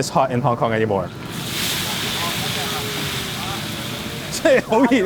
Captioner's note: fire blazing; both speaking in foreign language